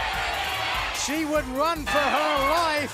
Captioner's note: crowd chatter